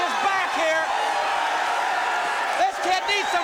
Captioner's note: crowd cheering